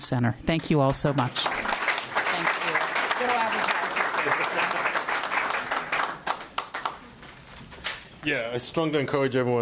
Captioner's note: applause